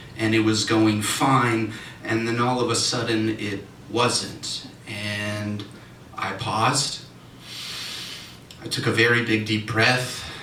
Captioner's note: inhale